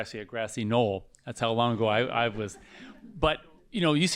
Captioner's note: laughter